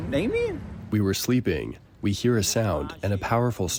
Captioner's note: through translator